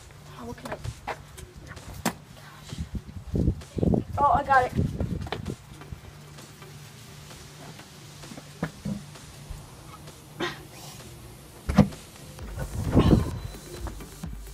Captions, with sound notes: Oh what can I... Gosh. Oh I got it! *Grunts*